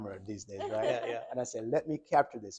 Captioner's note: doctor laughing